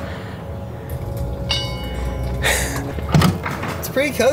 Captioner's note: bell dings